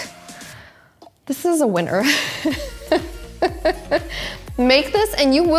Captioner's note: laughs